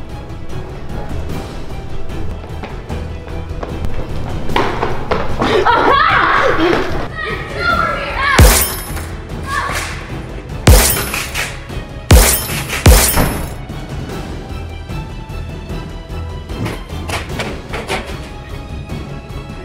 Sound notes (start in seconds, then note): 4.8 footsteps running; 8.4 yelling